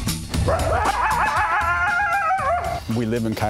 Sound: howling

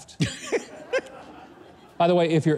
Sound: laughs

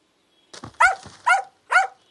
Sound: dog barking

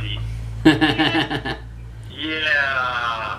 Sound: laughs

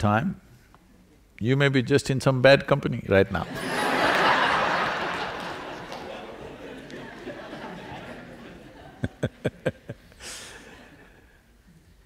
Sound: laughter

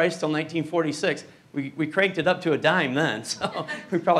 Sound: chuckles

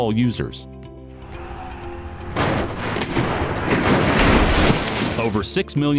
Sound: nat sound of tires squealing and accident impacts

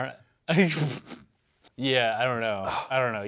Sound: laughs

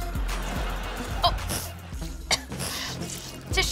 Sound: coughs

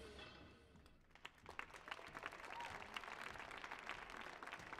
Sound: crowd applause

